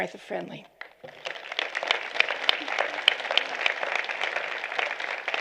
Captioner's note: applause